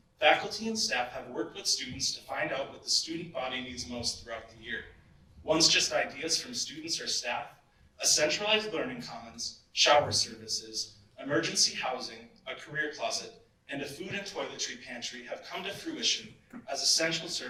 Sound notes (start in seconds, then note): none